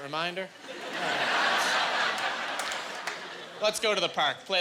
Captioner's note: laughing